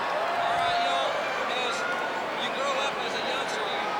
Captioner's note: crowd cheering